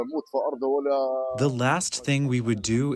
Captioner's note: through translator